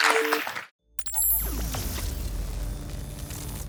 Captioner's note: audience applauds; digital keys beep